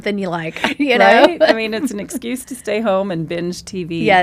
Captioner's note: laughs